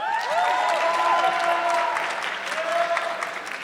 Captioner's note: audience clapping